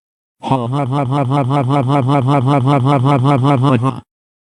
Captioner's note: Nugget Nose laughing